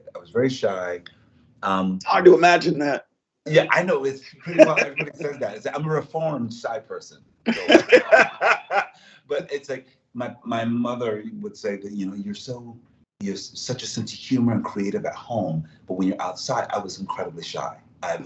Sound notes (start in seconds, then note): 3.5 laughs; 7.5 both laugh